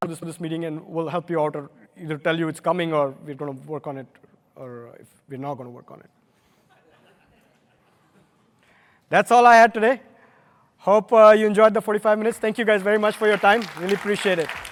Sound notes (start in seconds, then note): 6.6 laughter